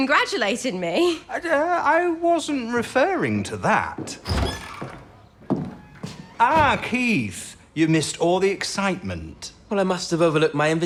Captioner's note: the door opens.Footsteps